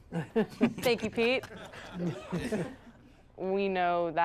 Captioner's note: all chuckling